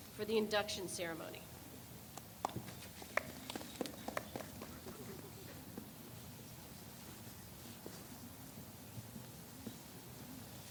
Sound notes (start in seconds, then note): 2.6 person chuckles; 3.1 people applaud